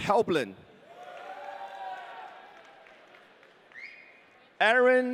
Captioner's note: audience cheering